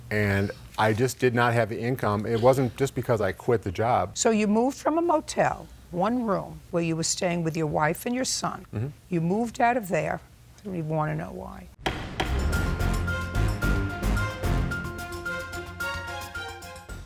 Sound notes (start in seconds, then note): 11.8 gavel slams; 13.6 upbeat intense music